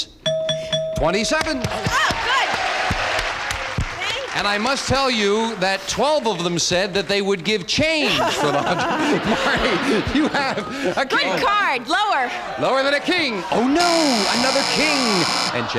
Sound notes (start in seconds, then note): 0.2 bell dings; 8.0 laughter; 13.8 buzzer